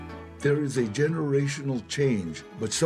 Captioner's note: in English